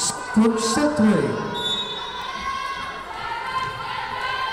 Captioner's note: whistle blowing